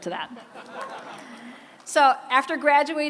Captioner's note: laughter